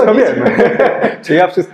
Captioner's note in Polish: śmiech